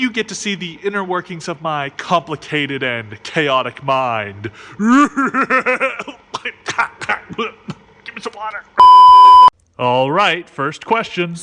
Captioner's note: coughs